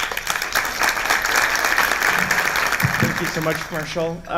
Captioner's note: applause